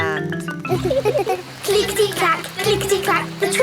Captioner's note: laughing